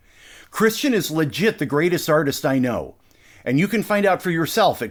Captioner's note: none